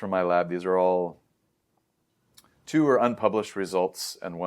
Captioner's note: lips smack